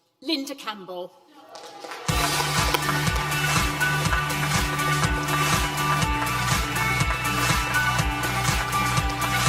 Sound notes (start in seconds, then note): 1.4 audience applause; 2.1 upbeat music